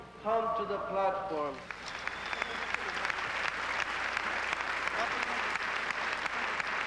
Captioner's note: applause